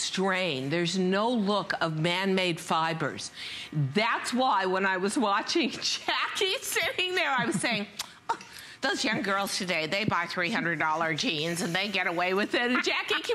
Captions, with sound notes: NO LOOK OF MAN-MADE FIBERS. THAT IS WHY WHEN I WAS WATCHING JACKIE SITTING THERE I WAS SAYING[LAUGHTER] THOSE YOUNG GIRLS TODAY THEY BUY $300 JEANS AND THEY GET AWAY WITH AND